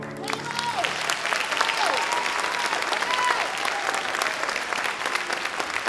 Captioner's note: audience applauds